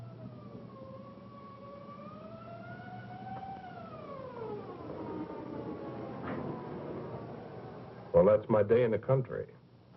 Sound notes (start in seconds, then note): 4.3 siren waling